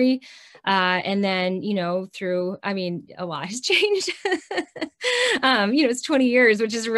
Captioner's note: chuckles